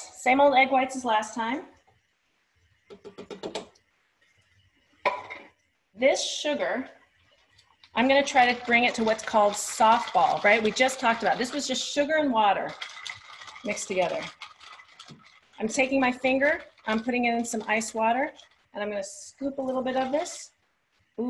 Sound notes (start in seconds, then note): 2.9 knocking noise